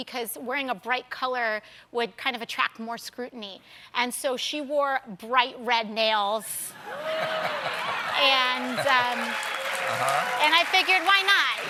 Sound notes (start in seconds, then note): 4.0 cheers and applause; 11.5 applause